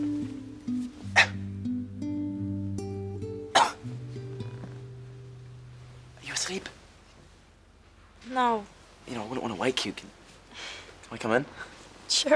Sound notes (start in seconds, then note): 1.3 coughs quietly; 3.5 coughs